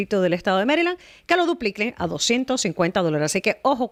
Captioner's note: Hablando ingl\s